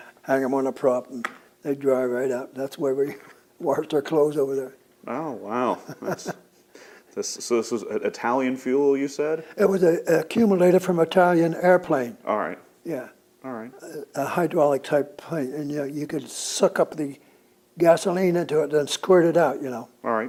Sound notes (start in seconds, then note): 5.6 laughs